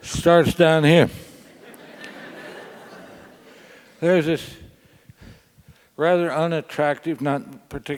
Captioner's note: laugh